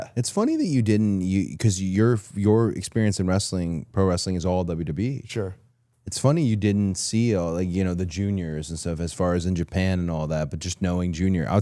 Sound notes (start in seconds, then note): none